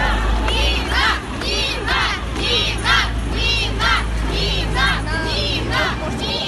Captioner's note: Women chanting: 'Nina! Nina!'